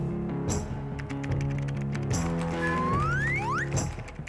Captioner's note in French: frappe au clavier